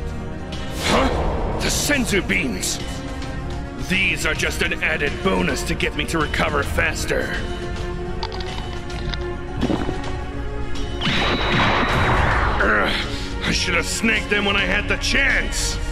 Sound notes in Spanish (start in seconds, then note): 12.3 Gruñidos